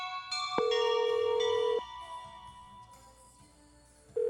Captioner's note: telephone ringing